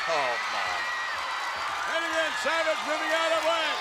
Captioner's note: audience cheers